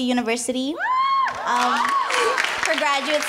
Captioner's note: cheering; clapping